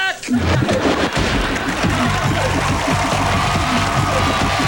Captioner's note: cheers and applaus■